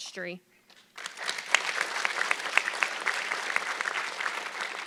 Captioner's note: audience clapping